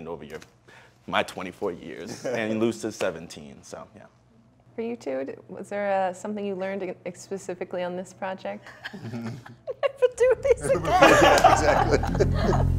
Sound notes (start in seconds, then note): 2.2 laughs; 8.7 snickering and laughing; 10.6 laughs